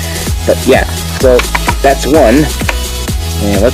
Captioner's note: taps cards